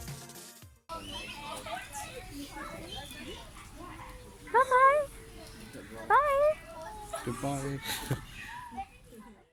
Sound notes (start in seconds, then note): 0.9 birds chirping, people chattering, meerkat hums; 7.8 chuckle